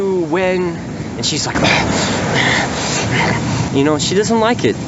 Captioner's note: angry grunts